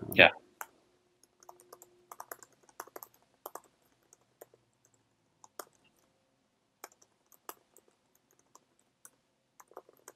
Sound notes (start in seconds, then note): 2.1 keyboard clicking